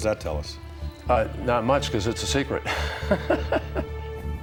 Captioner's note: laughs